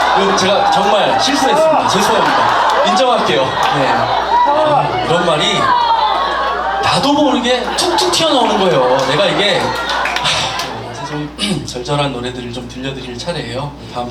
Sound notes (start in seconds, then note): 10.2 sigh